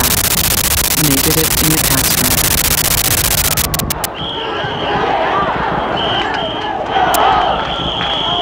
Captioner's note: crowd shouting; whistles blaring